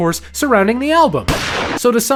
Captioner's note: gun fires